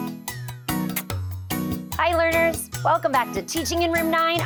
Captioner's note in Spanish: beso golpea